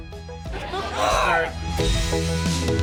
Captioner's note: squeals